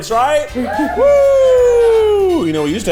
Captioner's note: cast cheering